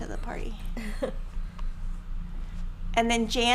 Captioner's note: laughing